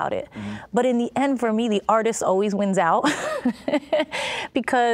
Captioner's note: laughing